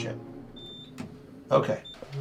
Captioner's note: elevator beeps